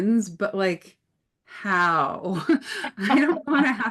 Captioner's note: laughs